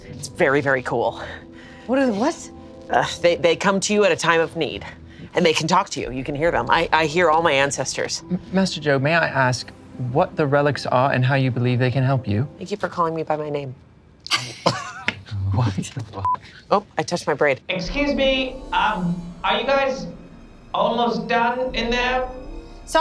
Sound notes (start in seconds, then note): 14.3 group laughs; 16.2 beep